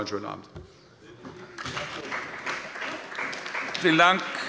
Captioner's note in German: Beifall bei der CDU